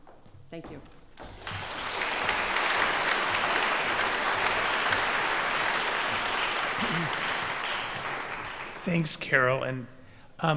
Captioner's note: applause